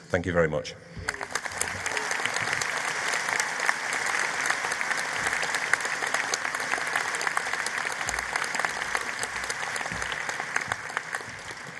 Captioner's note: applause